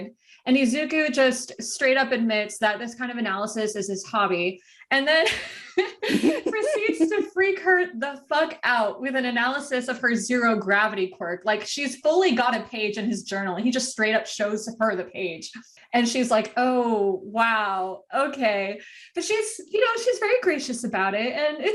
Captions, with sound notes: . And Izuku just straight up admits that this kind of analysis is his hobby and then *wheeze*, proceeds to freak her the fuck out with an analysis of her Zero Gravity quirk. Like, she s fully got a page in his journal and he just straight up shows her the page. And she s like ohhhhhhh, wow, okay . But she s, you know, she s very gracious about it and